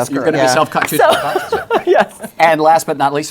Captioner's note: laughs